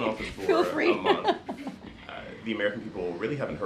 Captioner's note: laughs